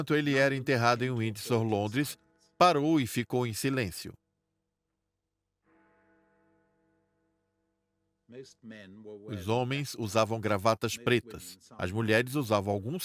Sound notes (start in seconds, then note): 2.3 bell ringing